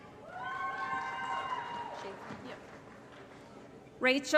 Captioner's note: applause & Cheering